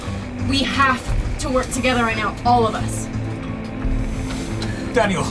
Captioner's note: none